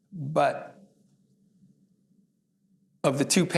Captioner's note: none